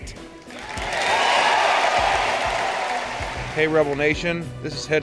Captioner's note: cheering